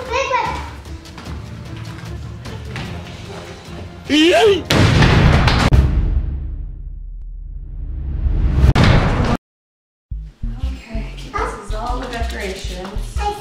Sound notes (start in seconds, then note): 4.6 boom